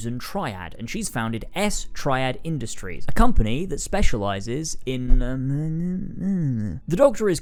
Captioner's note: mumbles